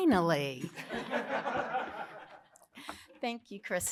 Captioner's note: laughter